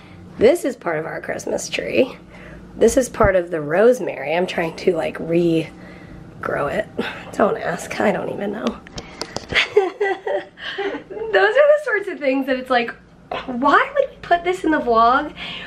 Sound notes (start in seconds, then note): 9.5 laughter